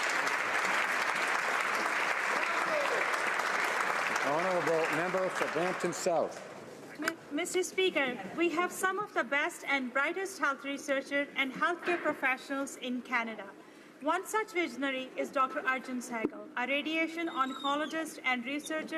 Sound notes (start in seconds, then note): 0.0 applause